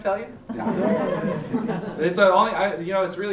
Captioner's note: chuckles